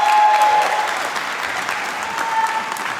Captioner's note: applause